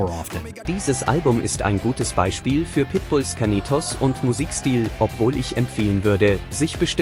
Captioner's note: foreign language